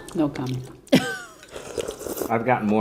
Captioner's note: chuckles